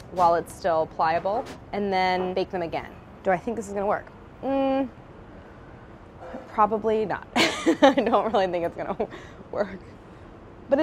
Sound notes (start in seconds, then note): 6.8 laughs